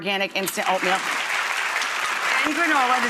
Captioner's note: audience clapping